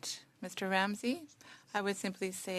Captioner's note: speaking French